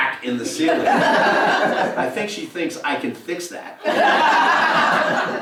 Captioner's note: laugh